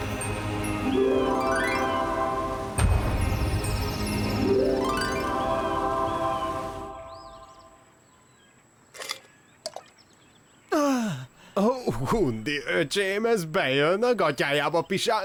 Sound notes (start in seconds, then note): 10.7 sighing